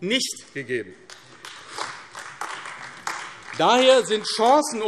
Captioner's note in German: Beifall AfD